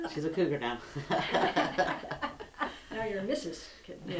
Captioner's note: laughter